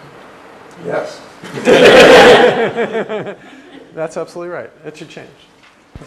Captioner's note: laugh